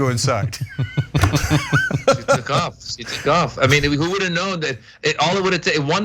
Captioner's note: laugh